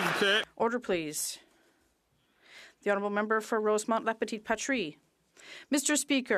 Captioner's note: some Applause